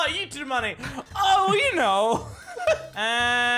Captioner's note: giggles awkwardly